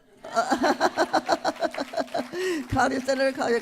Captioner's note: laughter